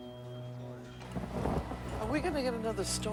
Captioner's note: thunder claps